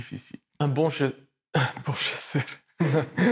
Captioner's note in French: bafouille; rire